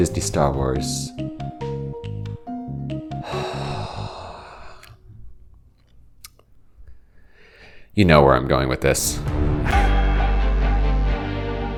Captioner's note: sigh